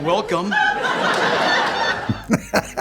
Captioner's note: audience laughing; Jeremy laughing